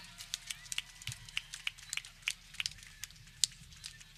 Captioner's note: people clapping